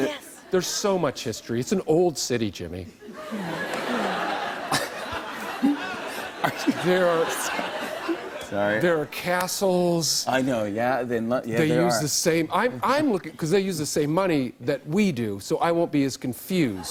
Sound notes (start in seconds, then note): 3.0 laughter